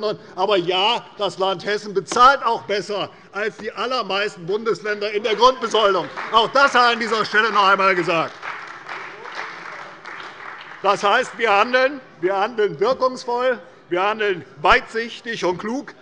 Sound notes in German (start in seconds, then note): 8.2 Beifall bei der CDU und dem BÜNDNIS 90/DIE GRÜNEN